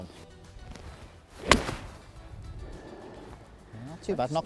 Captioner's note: golf ball cracking